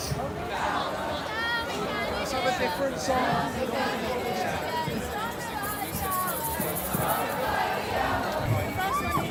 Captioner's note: chanting